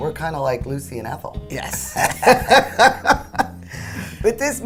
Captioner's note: ladies laughing